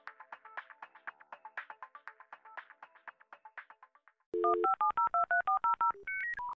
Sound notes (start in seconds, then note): 4.3 touch-tone phone beeps